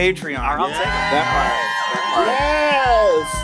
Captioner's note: applause